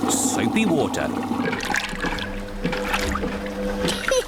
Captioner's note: machine rumbles; giggles